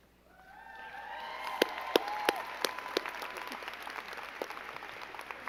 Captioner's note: crowd cheering and clapping